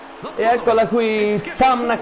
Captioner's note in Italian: Applauso